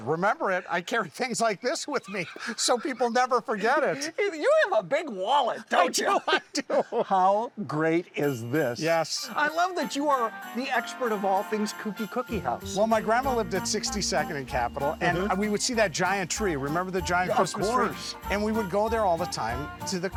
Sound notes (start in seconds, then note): 1.9 laughing; 5.7 laughs